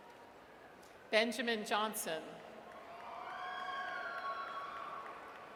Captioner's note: audience cheers